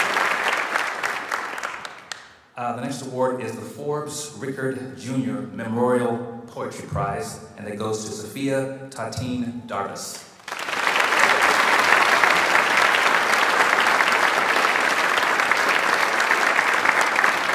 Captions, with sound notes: The next award is the Forbes Rickard Jr. Memorial Poetry Prize. And that goes to Sophia Tottene-Darvas. (audience applauds)